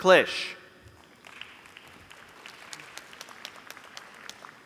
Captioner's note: applause